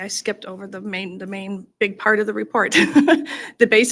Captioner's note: laughs